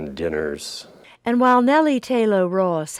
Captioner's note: voiceover